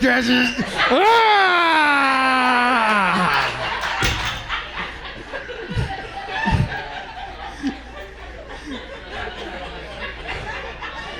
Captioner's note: grunting intesifies